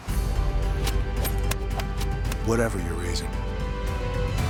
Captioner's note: SFX: golf strokes